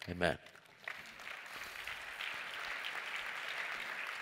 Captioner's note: Aplausos